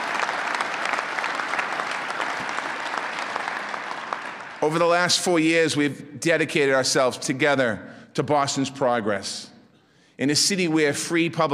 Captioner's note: applause